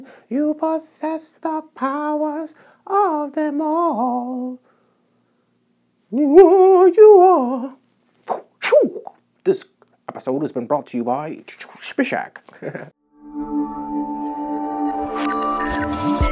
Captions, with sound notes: You posses the powers of them all. You are, you are... (Karate sounds) This episode has been brought to you by Spishak